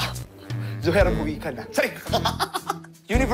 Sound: laughs

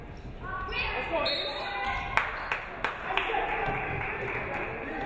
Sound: referee whistles

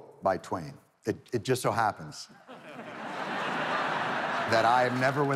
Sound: audience laughing

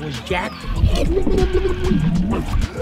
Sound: drowning

